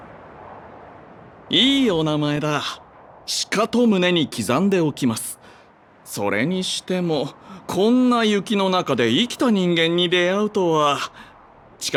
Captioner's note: sigh